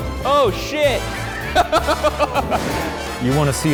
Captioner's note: laughing